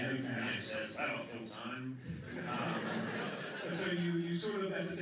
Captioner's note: laughter